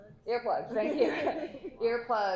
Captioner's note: laughter